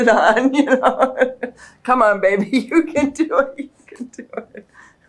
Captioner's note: laughs